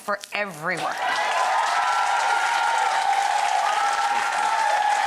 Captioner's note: audience cheers